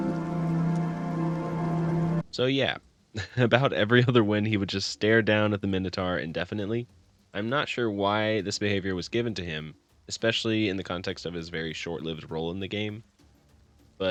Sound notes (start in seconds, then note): 3.1 laughs